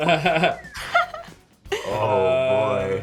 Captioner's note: Chris laughs; Lola laughs; Sean whistles